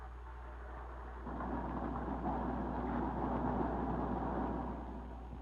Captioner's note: car engine revving